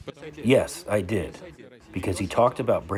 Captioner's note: through translator